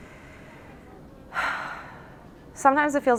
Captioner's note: women sighs